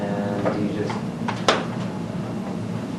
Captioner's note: hits hand